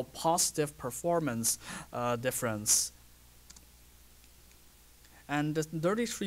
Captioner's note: pause